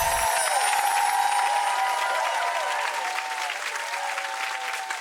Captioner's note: applause and cheers